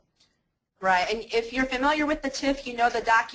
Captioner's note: voiceover